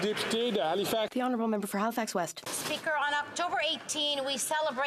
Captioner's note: applause